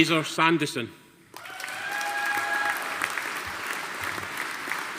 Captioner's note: audience applauding